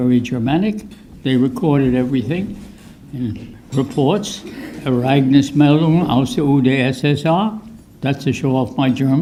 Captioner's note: speaks German